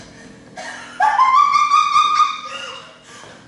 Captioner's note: unhinged laughter